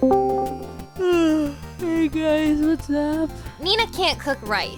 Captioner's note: yawns